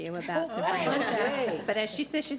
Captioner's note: board cheers